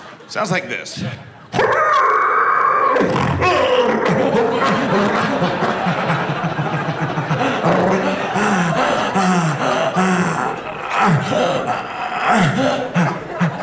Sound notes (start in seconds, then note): 2.9 low grunts; 5.3 growls; 7.1 panting